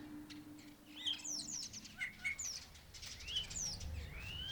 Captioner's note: birds chirping